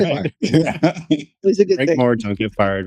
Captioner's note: laughing